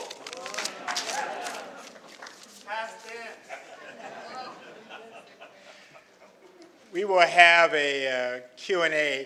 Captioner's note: foreign Language